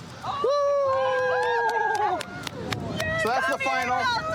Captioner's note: cheering